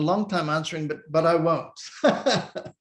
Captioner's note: laughs